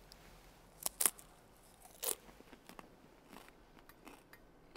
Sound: crunching

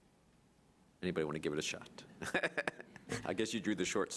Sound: laughing

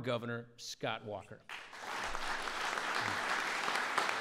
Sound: applause

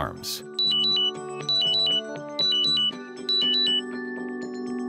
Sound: alarm tone

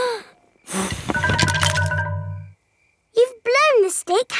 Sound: blowing

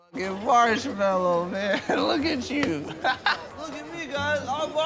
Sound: laughs

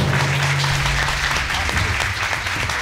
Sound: audience applauding

